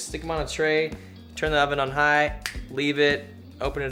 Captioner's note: snaps fingers